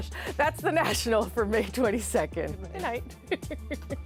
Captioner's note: laughter